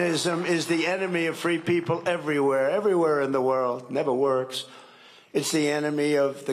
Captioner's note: cheering and applause